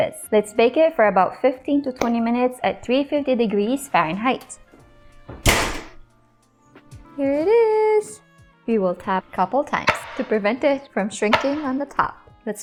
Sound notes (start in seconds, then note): 4.9 oven thuds